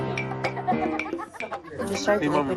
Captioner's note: woman laughs